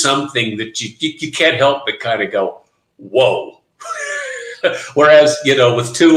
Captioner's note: laughing